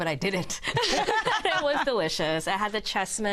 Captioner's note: laughter